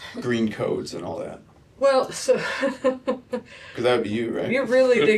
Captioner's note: laughter